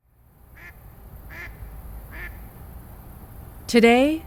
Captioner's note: duck quacking